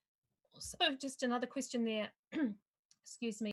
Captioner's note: clears throat